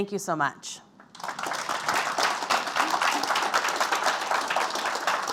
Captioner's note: applause